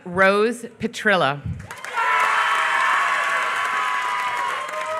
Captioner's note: applause